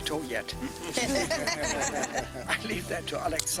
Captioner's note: laughter